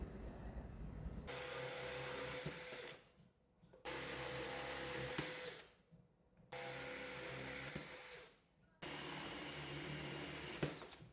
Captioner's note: drilling sounds